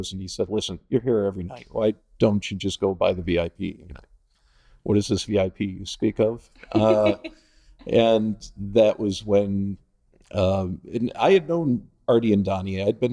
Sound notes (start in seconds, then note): 6.6 laughing